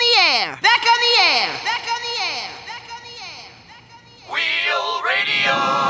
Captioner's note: echoing